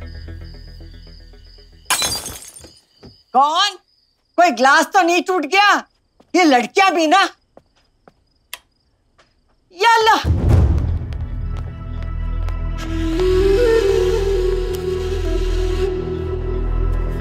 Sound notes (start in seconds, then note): 1.9 Glass breaking; 8.4 Switching on light; 10.3 Footsteps